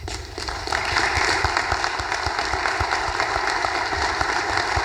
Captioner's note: audience applause